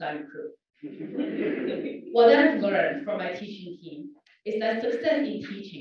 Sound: laugh

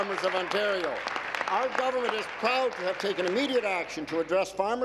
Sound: applause

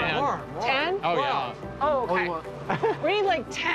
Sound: laughs

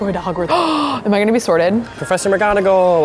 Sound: gasps

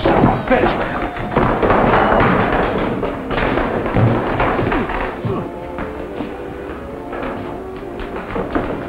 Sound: Sounds of scuffling as bartender throws Lucas out of the bar

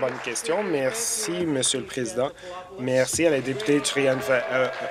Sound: applause

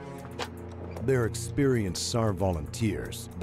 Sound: voiceover

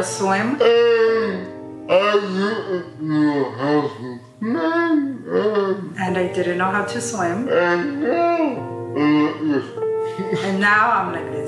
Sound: laughs

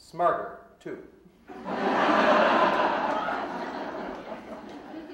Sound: audience laughing

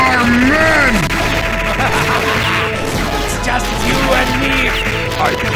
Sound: laugh

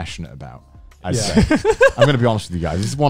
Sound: laughs

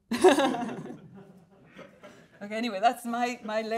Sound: all laughing

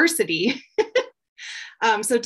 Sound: chuckles

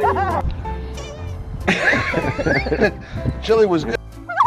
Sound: balloon squeeks

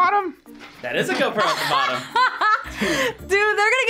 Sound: laughs

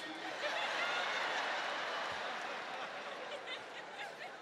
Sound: audience laughing

